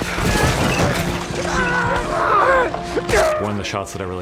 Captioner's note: screaming